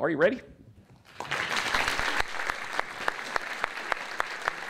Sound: applause

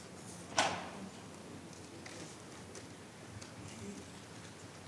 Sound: speaking faintly

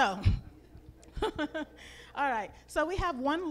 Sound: laughs

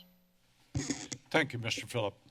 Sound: mic noise

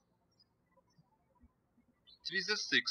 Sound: birds chirping

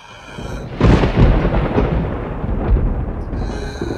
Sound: thunder claps

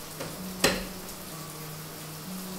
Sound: front door shuts

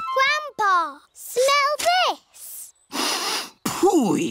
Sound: sniffs

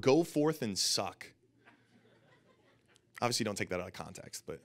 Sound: audience laughing

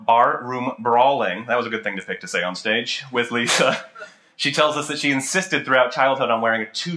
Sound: laughter

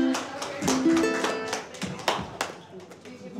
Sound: people clap

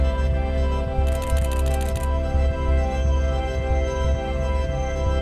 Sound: rapid clicking

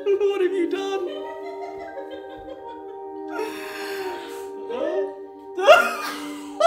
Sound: laughing; laughing

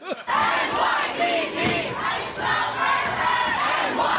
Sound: laughter; protesters chanting

